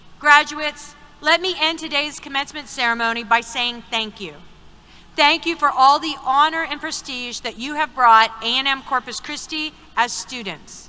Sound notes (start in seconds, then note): none